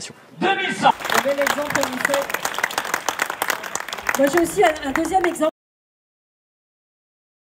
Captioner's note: applause